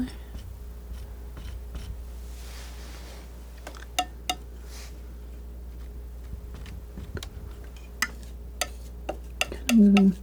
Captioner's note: tapping